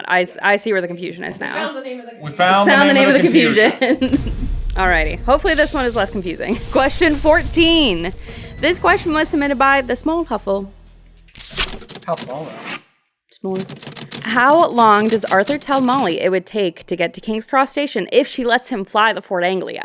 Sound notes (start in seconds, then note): 2.7 laughs